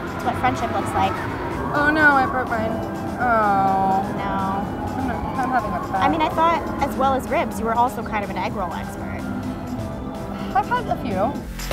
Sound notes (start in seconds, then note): 3.6 murmurs